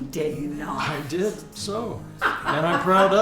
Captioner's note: Pamela laughs